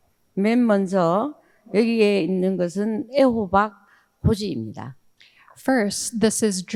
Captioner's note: speaking in foreign language